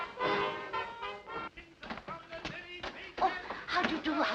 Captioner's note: man shouting